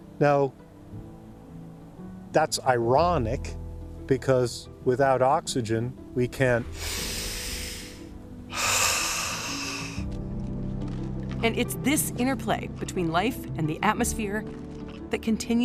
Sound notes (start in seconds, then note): 6.6 inhales and exhales deeply